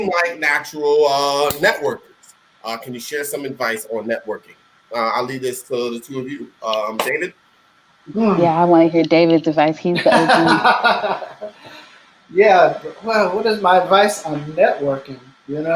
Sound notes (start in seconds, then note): 9.9 laughing